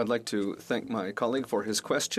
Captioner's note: speaking French